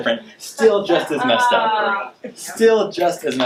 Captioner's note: audience groaning